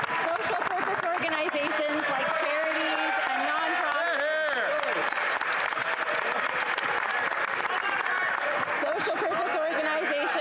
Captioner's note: applause